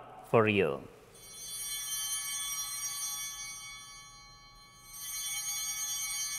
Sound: chimes ringing

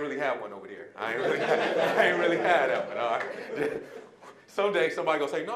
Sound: audience laughing

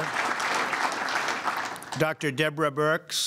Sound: applause

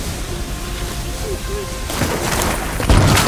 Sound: gunshots

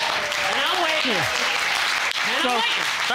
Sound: audience laughing and clapping

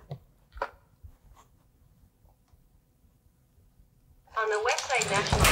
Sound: silence

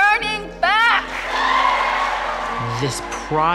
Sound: cheers and applause

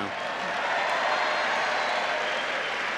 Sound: cheering

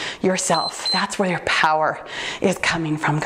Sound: timer beeps

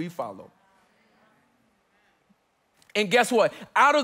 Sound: congregants affirming

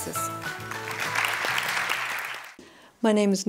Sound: applause

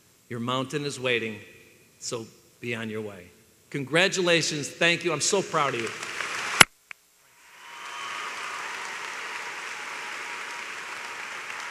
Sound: applause

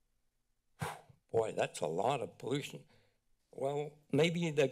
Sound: whistles

